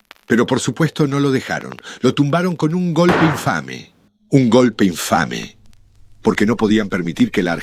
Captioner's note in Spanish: Golpe seco